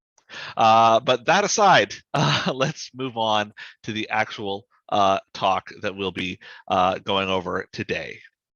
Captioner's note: chuckles